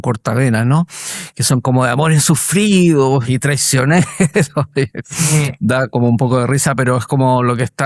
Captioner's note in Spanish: risas